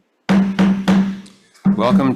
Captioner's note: gavel pounds